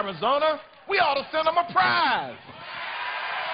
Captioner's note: cheers and applause